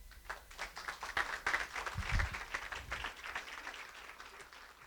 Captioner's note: applause